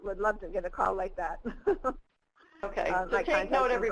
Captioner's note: laughs